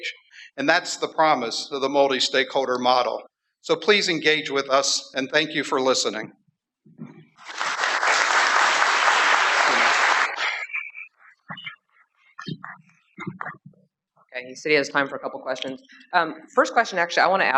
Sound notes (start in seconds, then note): 7.4 applause